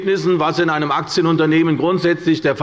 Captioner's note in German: none